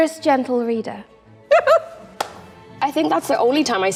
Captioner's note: Queen giggling